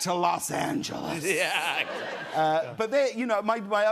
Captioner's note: laughter